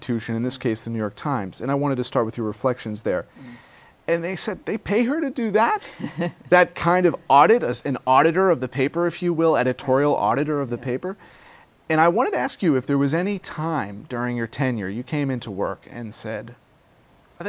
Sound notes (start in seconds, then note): 5.9 laughs